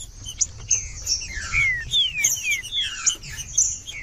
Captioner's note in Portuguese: trinca ferro cantando